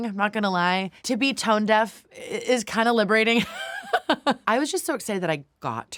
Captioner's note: laughs